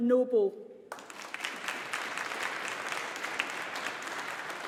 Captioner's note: audience applauding